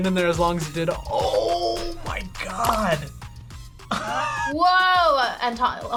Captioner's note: laughs